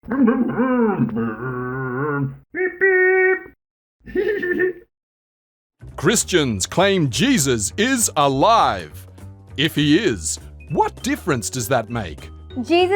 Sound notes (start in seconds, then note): 0.1 Scruff makes scooter noises; 4.0 Scruff laughs